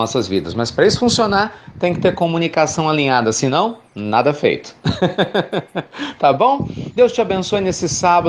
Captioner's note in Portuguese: Risos